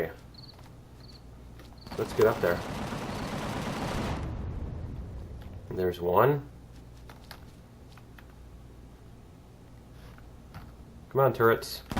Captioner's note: cannon turret firing